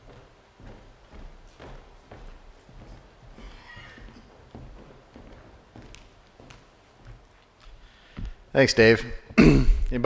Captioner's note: silence